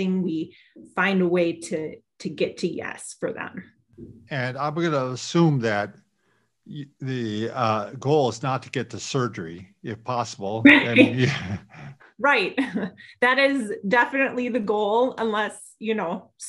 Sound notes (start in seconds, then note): 10.3 laughs